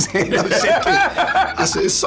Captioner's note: laughs